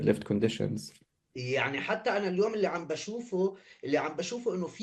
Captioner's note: speaking arabic